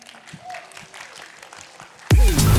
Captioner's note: applause